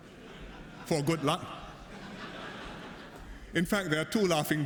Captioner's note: laughter